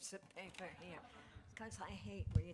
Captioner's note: laughter